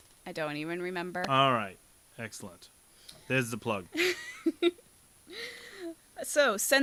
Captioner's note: laughter